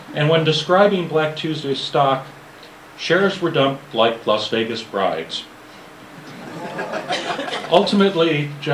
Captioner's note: laughter